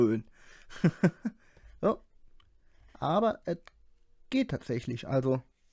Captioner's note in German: Lacht